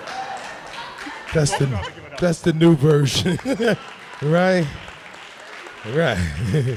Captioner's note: laughter